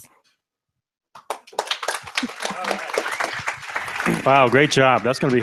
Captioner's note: applause